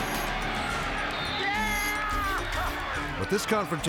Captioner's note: spectators cheering; whistle tweets